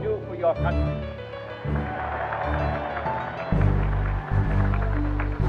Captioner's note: cheering